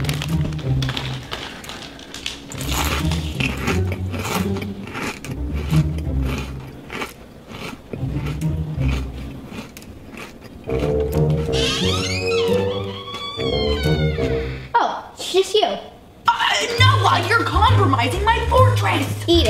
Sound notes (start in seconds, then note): 2.2 curious music; 3.6 crunching; 11.0 door creaking